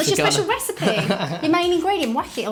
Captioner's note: laughs